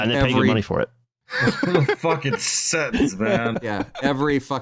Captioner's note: laughter